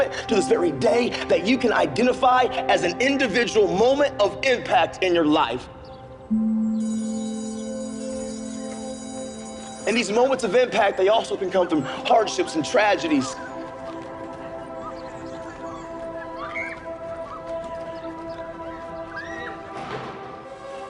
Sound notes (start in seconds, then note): 9.4 school bell ringing; 17.1 indistinct chatter